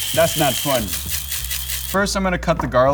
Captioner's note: grinder whirring